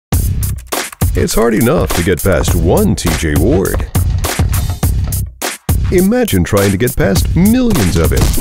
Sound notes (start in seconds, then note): 0.2 upbeat pop music; 0.4 computer keys clicking